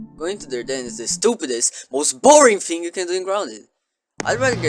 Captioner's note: none